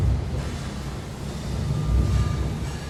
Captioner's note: metallic clanging echoes; eerie music